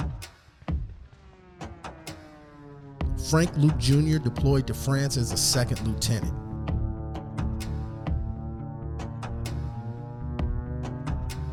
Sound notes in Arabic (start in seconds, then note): 6.9 الطائرات تحلق